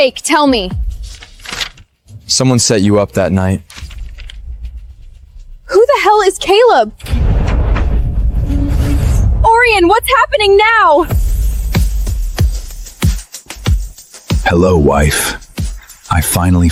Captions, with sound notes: Don't push me. Captain Roman, the fire's already been lit. There's no one to blame (air whooshing) (light music)